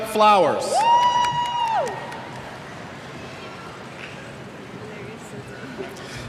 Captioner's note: cheers